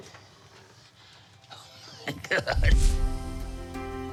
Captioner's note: laughs